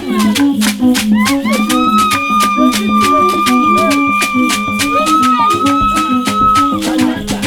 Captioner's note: shrieks